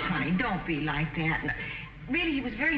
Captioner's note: audience laughing